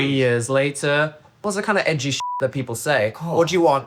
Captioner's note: beep